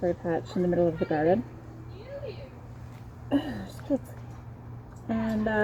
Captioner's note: kids yelling